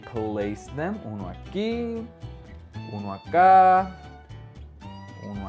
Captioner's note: speaking foreign language